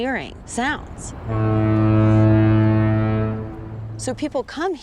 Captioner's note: low note of foghorn